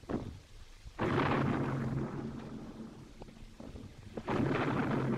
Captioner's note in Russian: взрывы